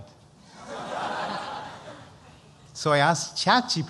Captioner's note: laughter